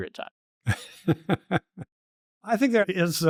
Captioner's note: laughter